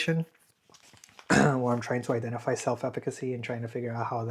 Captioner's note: clears throat